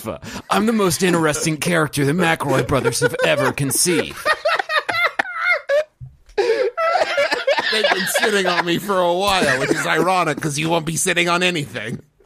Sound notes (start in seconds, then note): 4.9 uncontrollable laughter; 6.4 wheezing